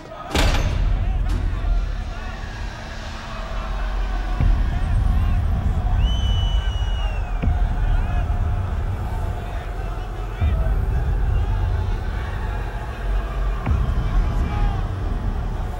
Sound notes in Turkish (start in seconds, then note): 0.0 Kapı açılma sesi; 4.3 Bağırma sesleri; 5.1 Islık sesleri; 10.3 Bağırma sesleri